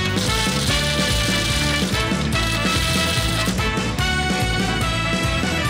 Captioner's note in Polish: brzęk monet